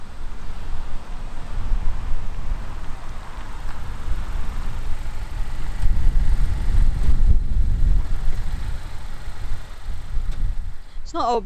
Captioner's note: car Driving In